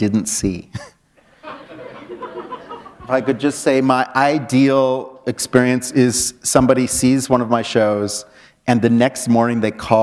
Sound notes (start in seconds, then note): 1.2 laughter